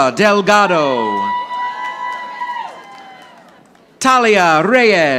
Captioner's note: audience applauding